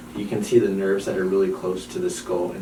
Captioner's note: none